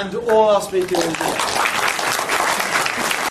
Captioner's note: audience applauding